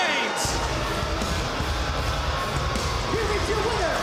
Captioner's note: bell ringing